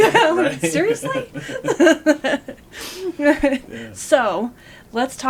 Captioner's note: laughing